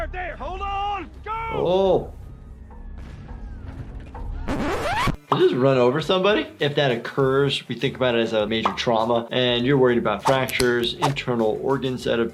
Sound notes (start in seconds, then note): 4.4 tape rewinds